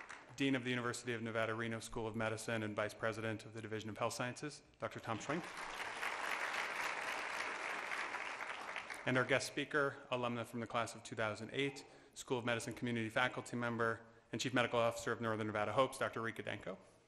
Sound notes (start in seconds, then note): 5.1 applause